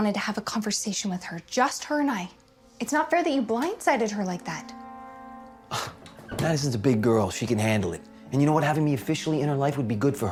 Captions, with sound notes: with her, just her and I. It's not fair that you blindsided her like that. - (scoffs) Madison is a big girl, she can handle it. And you know what? Having me officially in her life would be good for her,